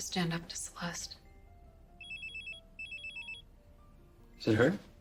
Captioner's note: phone ringing